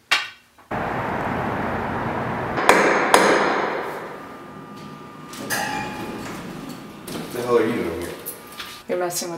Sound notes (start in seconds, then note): 2.8 hammering sounds; 3.5 elevator opens